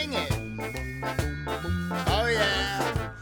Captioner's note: bell rings